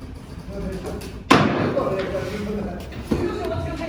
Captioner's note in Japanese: 木槌を打つ音